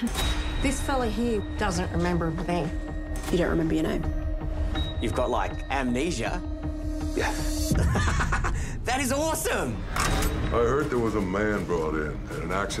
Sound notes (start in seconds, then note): 7.7 laughs